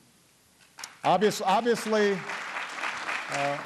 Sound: applause

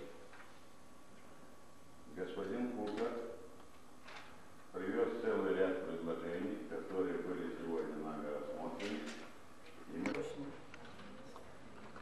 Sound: non-english speech

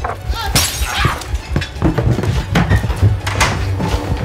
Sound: Nancy screaming; glass shattering

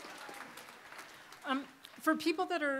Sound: applause

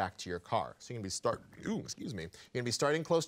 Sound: burping

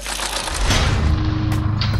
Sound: impact

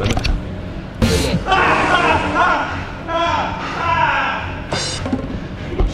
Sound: laughs

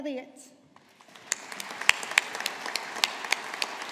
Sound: audience applauding

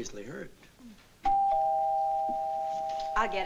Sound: doorbell rings

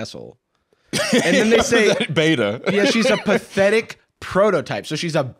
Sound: laughs

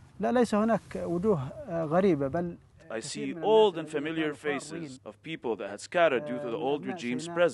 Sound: through translator

